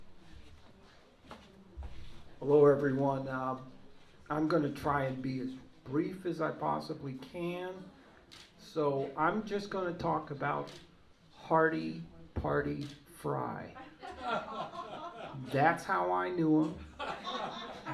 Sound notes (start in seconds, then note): 13.8 laughter